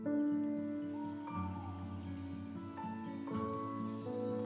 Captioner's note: birds chirping